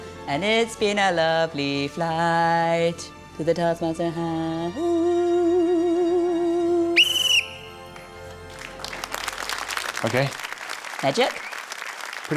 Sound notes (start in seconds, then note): 6.9 blows whistle; 7.9 applause